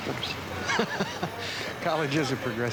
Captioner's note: laughing